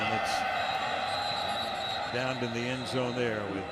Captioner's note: whistle blows